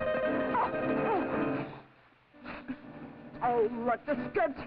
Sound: Doreen cries out

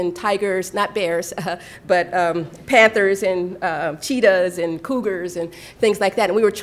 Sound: chuckle; laughter

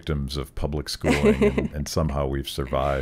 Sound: laughing

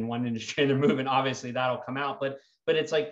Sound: chuckling

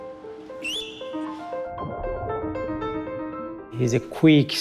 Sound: whistling

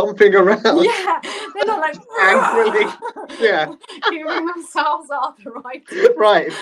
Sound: roaring and moving arms around

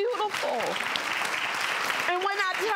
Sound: audience clapping

